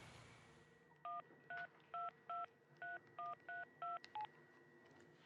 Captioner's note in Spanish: sonido al marcar